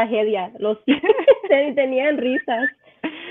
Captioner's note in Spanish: ríe